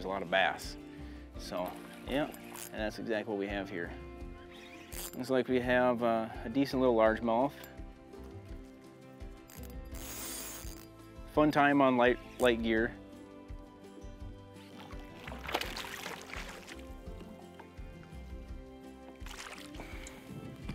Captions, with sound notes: there's a lot of bass, so. Yep, that's exactly what we have here. Looks like we have a decent little largemouth. (fishing rod reeling) Fun time on my light gear. (water splashing)